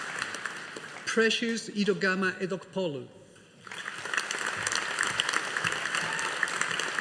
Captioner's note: audience applauding